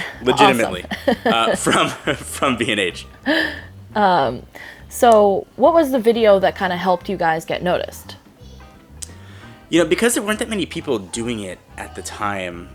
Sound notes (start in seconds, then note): 0.0 laughs